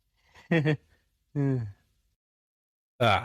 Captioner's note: nervous chuckle